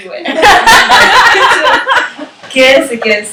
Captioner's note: laughter